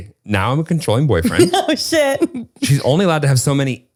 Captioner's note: laughing